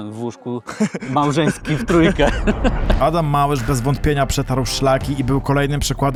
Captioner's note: laughter